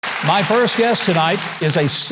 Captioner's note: audience applauding